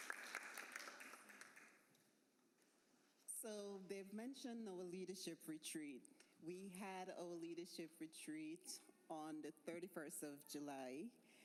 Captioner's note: applause